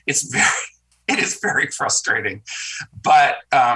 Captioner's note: senator chuckles